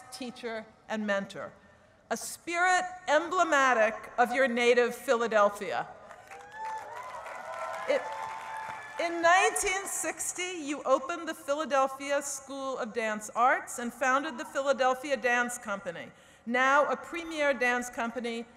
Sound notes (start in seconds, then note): 6.1 cheering and applause